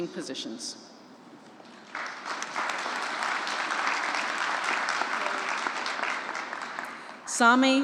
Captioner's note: applause